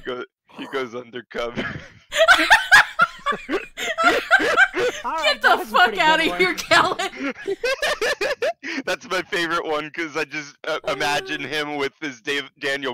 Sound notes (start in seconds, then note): 1.9 giggles; 4.6 more giggles; 7.9 ultra giggle